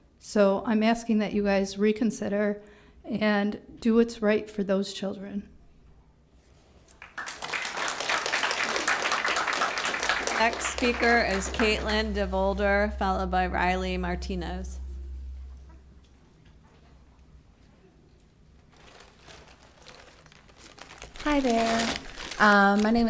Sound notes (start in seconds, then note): 6.9 applause